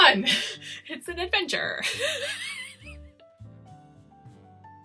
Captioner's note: laughs